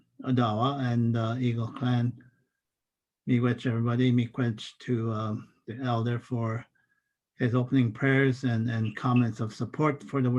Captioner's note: foreign language